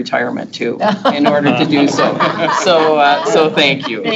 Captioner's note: group laughs